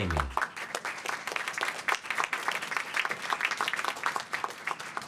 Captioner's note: applause